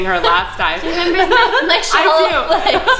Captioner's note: laughing